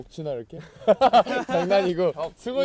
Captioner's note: haha